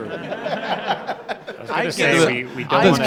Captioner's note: laughter